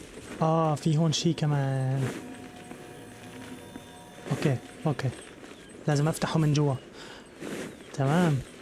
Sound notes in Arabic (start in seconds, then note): 1.0 أزيز الهواء; 4.7 رنين السيف